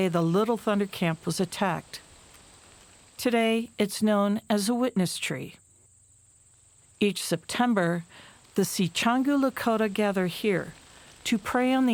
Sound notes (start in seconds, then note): 2.3 wind rustling; 5.8 wind rustling